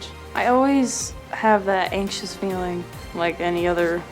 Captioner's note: voiceover